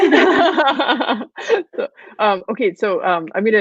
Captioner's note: laughing